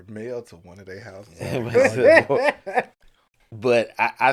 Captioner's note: laughter